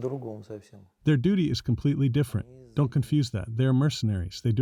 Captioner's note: through translator